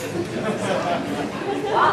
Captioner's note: laughter